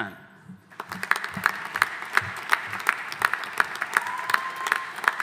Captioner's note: audience applauding